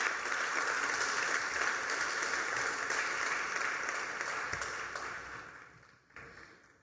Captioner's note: applause